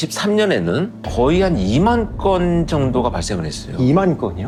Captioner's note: heavy sound effect